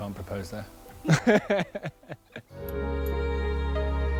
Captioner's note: laughter